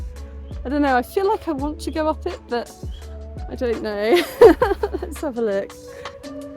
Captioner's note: laughing